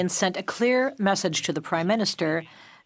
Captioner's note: speaking French